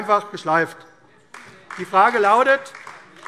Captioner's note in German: Beifall AfD